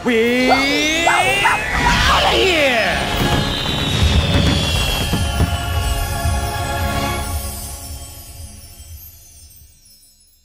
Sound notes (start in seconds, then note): 2.6 fireworks Over Music; 4.6 chimes Over Music; 7.4 chimes Only